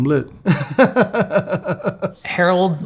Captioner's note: laughing